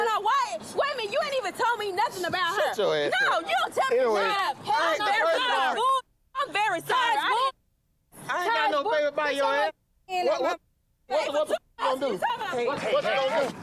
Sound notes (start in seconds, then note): 7.9 muted